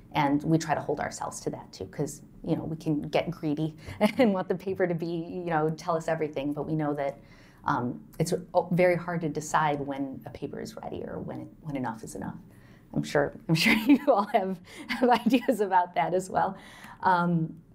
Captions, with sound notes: We try to hold ourselves to that too because we can get greedy and want the paper to tell us everything but we know that it's very hard to decide when a paper is ready or when enough is enough. I'm sure [LAUGHTER] you-all have ideas about that as well.